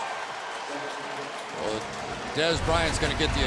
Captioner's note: pa announcement